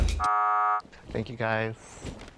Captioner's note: buzzing sound